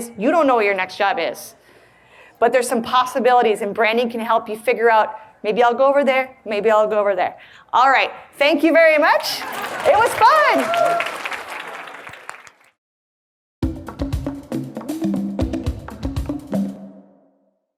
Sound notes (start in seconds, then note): 9.1 audience claps and cheers; 13.6 upbeat drum music